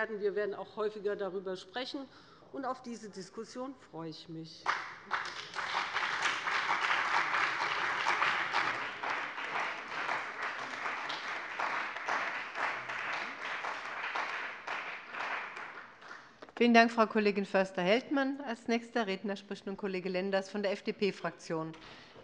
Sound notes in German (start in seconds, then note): 4.9 Beifall bei dem BÜNDNIS 90/DIE GRÜNEN und der CDU